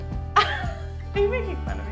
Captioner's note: laughs